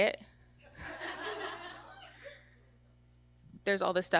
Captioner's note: audience laughter